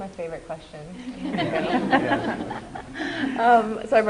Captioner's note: laughter